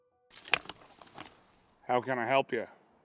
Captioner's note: metal clanging